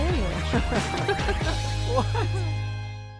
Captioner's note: they both laugh